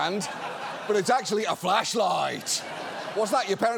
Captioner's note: audience laughs